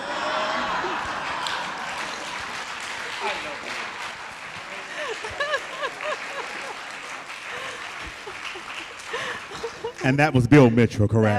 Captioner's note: laughter and Applause